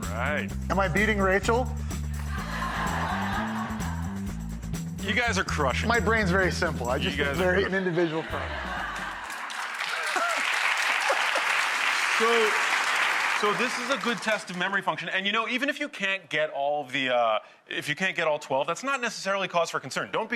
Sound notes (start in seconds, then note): 2.2 audience laughs; 8.5 mutters; 8.9 audience claps